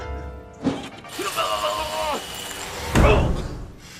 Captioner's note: sound of electric shock